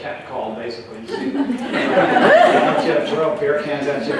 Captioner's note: laughter